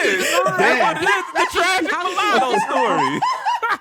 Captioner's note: laughing